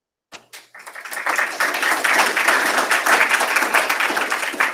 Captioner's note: applause